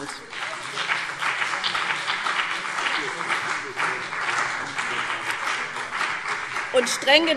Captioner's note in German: Beifall BÜNDNIS 90/DIE GRÜNEN und CDU